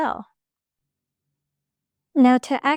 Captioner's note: pause